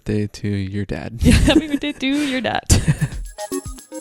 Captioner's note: laughing; lively music